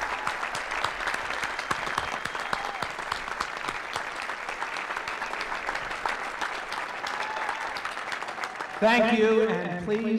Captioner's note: applause